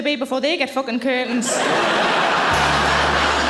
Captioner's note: audience laughing